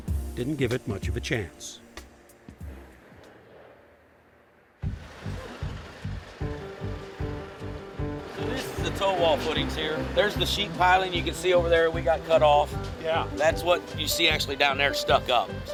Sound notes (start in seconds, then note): 4.7 digger engine rumbling; 4.7 upbeat music